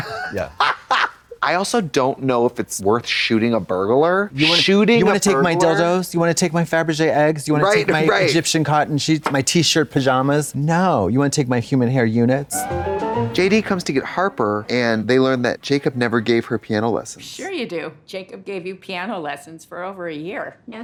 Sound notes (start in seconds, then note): 12.7 bright chime